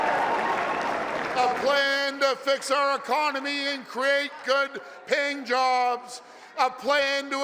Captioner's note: applause and cheering